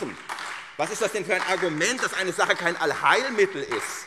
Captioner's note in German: Beifall SPD und Freie Demokraten